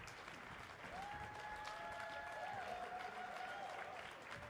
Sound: audience whooping

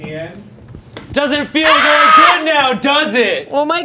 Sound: screaming

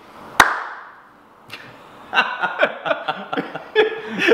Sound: clapping and laughing

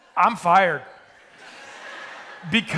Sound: attendees laughing

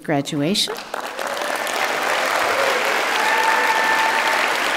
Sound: audience clapping

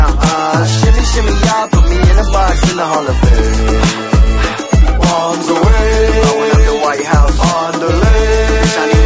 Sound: ha, ha

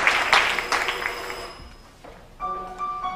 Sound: alarm clock rings

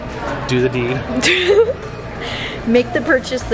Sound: laughs

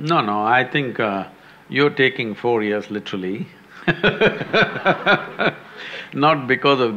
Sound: laughter; laughs

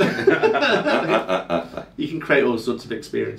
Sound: group laughing

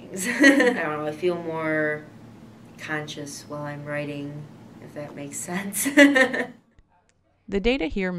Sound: laughs

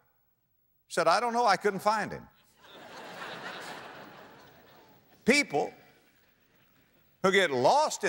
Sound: audience laughter

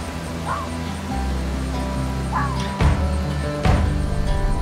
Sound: coyote barking

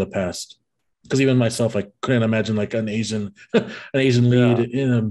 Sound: laughs

